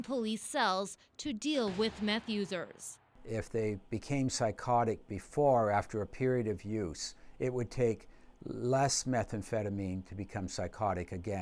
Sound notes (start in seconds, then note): none